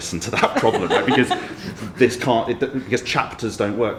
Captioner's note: everyone laughs